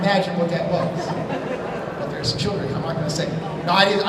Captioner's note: laughter